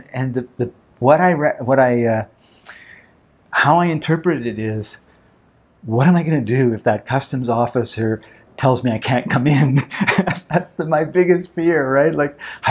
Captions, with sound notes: How I interpret it is what am I gonna do if that Customs Officer tells me I can't come in? (laughs) That's my biggest fear.